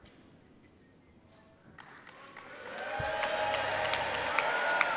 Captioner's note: applause